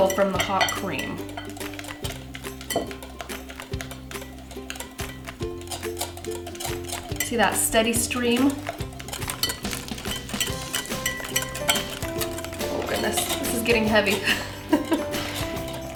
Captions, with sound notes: from the hot cream. (whisking) See that steady stream? (whisking) Oh, goodness, this is getting heavy.